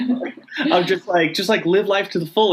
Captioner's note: laughing